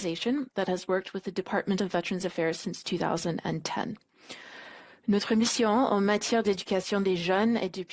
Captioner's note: speaking French